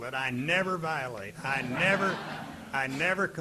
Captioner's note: audience laughing